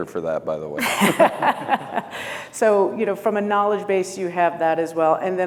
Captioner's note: laughs